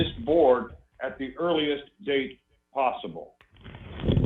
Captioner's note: rustling papers